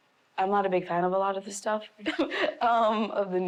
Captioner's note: laughing